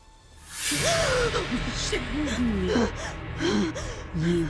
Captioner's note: dramatic music; gasps